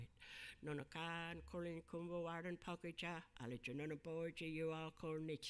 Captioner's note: speaking in a foreign language